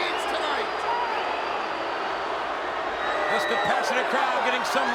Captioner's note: audience jeers